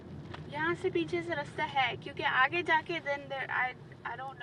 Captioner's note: speaks in foreign language